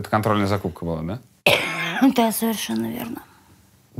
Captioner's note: coughs